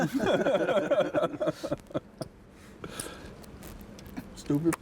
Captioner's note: players laughing